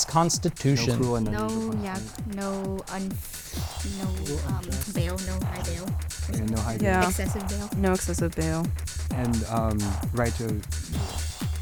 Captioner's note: whispering